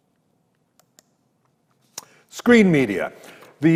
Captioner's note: mouse clicks